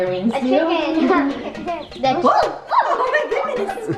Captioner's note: laughing